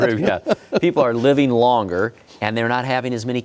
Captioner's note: laughing